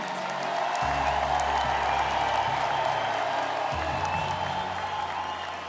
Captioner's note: all cheering and applauding